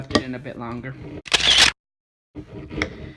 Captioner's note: photo sound